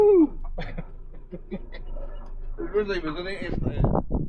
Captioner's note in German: Lachen